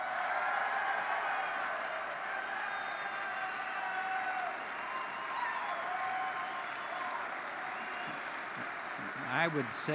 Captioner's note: applause